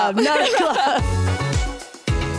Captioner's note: laughter